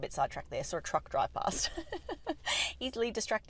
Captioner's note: laughter